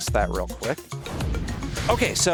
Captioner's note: whooshing